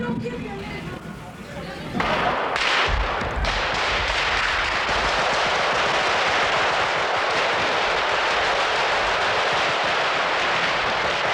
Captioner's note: mixed voices; shots